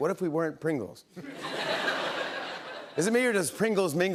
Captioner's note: laughter